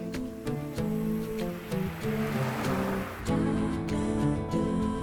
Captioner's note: car rumbling